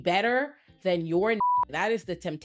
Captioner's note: beep